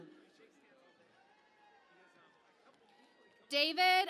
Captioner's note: cheering and Applause